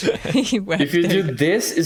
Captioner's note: laughter